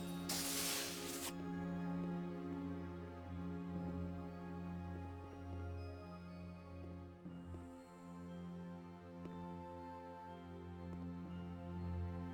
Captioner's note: static